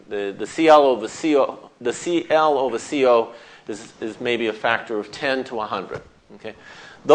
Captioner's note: none